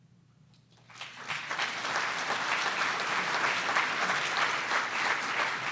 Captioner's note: audience applause